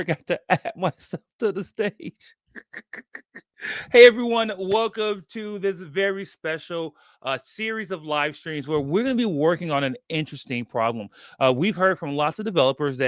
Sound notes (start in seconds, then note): 2.5 laughs